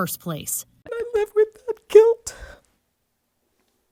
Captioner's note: crying